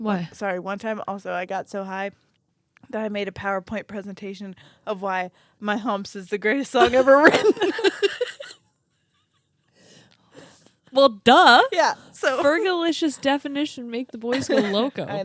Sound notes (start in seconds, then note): 6.8 laugh